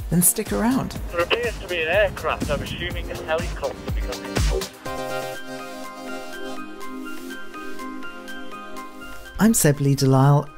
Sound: voice on radio

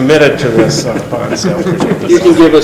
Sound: laughing

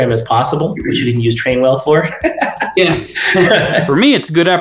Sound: laughs

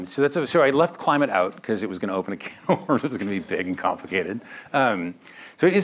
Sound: laughs

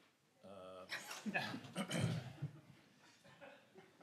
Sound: laughs

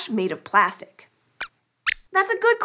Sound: squeaks squeaks

